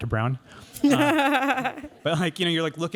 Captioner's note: laughter